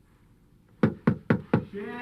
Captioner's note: knocking